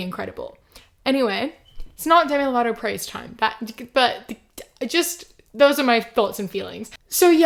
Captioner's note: stammers